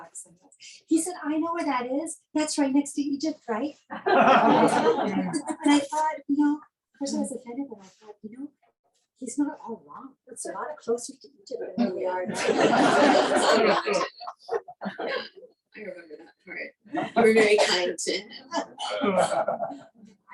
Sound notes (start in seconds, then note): 4.0 laughing; 12.3 laughing